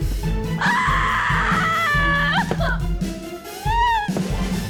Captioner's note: screams